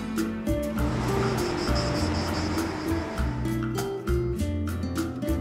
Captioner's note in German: Zikaden zirpen